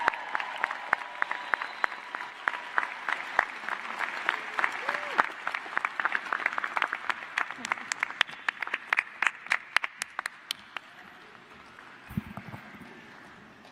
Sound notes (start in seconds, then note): 0.0 applause